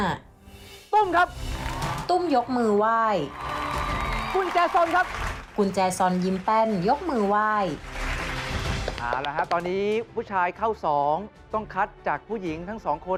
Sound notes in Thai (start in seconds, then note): 0.0 เสียงดนตรีตื่นเต้น; 3.0 เสียงปรบมือ